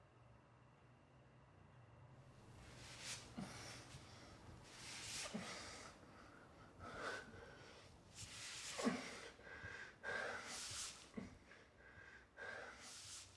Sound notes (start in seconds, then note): 8.3 deep breathing